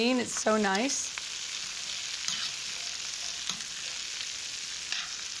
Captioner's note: sizzling